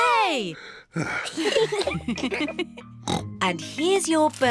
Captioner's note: sighs; all laugh; oinks